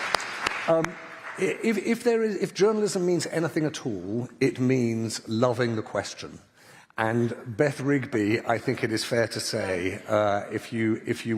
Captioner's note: applause